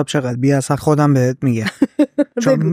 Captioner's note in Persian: خنده